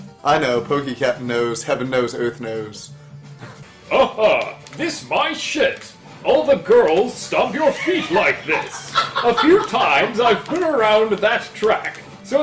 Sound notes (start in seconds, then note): 3.9 in his Professor Pickle voice; 7.5 laughs